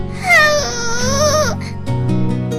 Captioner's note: sighed